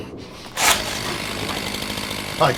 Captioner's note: chainsaw motor whirring